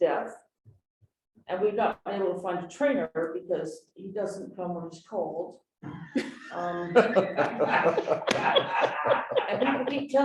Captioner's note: laughter